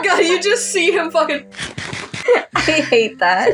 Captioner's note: laughing; Minecraft Eating Sound; giggle